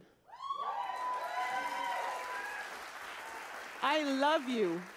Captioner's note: audience applauding